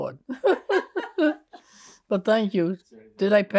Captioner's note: laughing